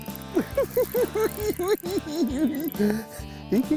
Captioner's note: cackling